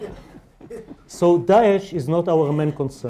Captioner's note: laughter